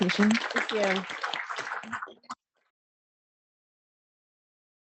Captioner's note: audience applauds